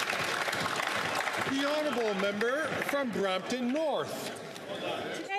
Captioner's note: some Applause